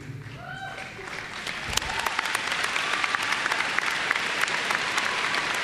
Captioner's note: applause